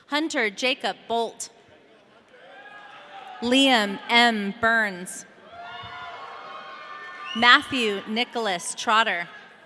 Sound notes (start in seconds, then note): 2.4 audience cheering; 5.5 audience cheering